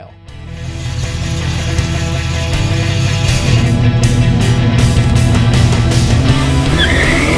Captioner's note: intense energetic rock music; engine idles; engine revs loudly; tires squeal